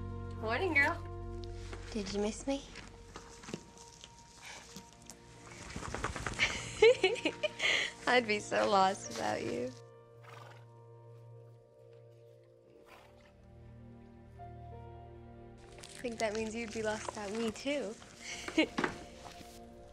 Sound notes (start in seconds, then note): 6.0 laughs